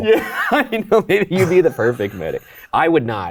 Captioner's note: chuckles; laughs